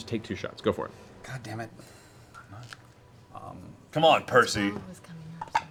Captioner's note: sighs